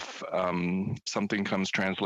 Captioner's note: speaking French